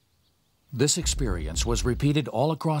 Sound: voiceover

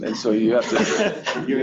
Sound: laughter

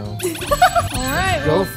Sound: laughs

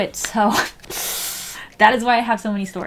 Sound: deep inhale

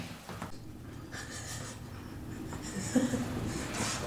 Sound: laughes

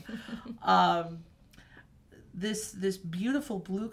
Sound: chuckling

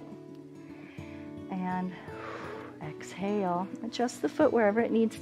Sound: exhales

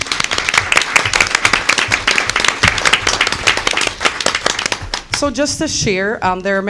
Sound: applause

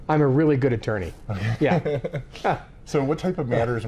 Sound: laughing

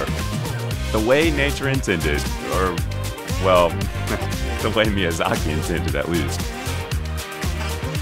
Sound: chuckle

